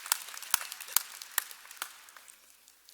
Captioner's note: cheers and applause